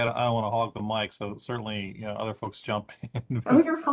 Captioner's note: laughing